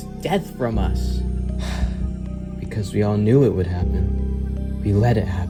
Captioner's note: sighs